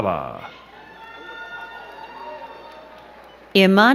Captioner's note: crowd cheering